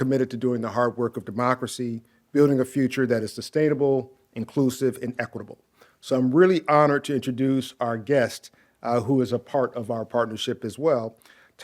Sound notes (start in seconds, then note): none